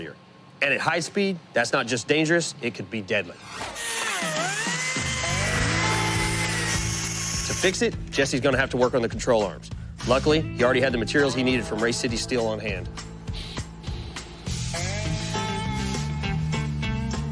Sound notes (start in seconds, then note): 3.3 whirring